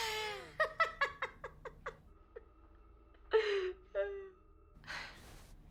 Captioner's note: laughing